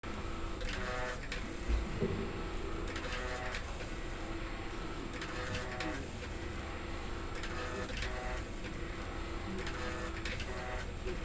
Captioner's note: rhythmic machine noises